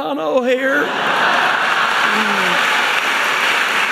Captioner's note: audience laughing; audience applauding